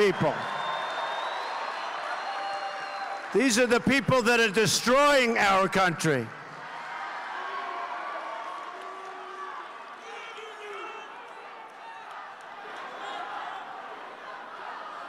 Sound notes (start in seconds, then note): 6.5 cheers and applause